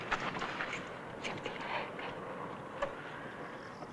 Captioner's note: whispering